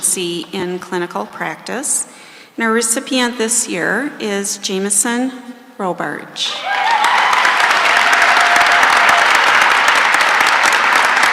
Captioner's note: cheering and applause